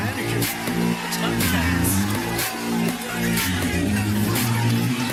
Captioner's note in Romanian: Aplauze